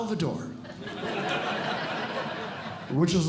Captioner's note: audience Laughing